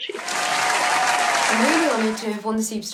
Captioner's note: applause